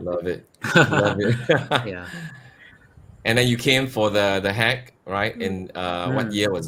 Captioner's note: laughter